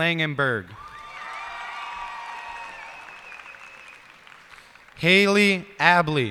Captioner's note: cheers and applause